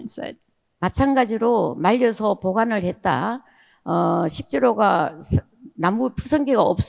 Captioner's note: speaking in foreign language